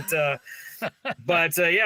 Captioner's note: laughing